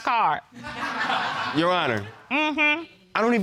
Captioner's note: audience laughs